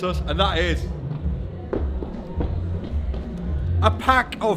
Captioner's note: footsteps thumping